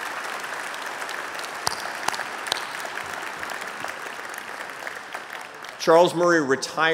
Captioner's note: applause